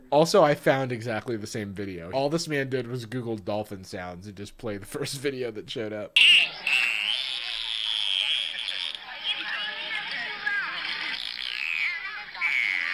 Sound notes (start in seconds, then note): 6.2 dolphin squeaking noises